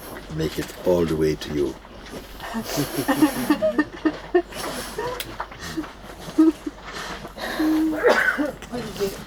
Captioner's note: crying and laughter